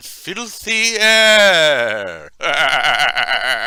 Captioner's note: cackling laughter